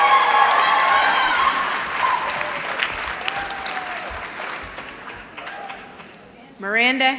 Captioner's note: applause